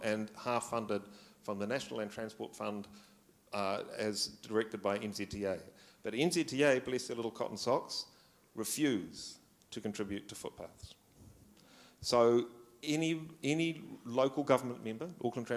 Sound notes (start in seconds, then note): none